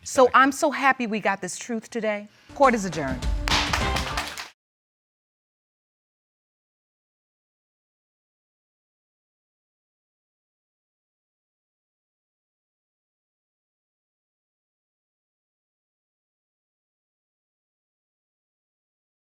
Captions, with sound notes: So I'm so happy we got this truth today, Court is adjourned. (APPLAUSE)